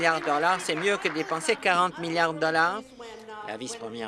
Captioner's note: applause